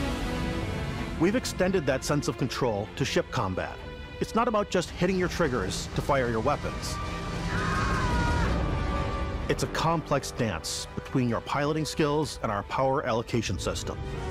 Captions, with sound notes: We've extended that sense of control to ship combat. It's not about just hitting your triggers to fire your weapons. [SCREAMING] It's a complex dance between your piloting skills and our power allocation system.